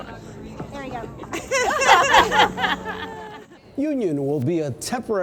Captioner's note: laughter